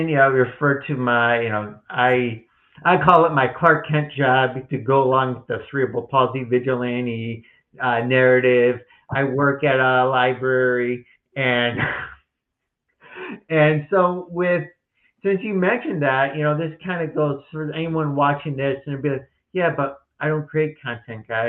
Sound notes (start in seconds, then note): 11.5 laughs